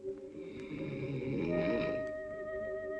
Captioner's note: california snores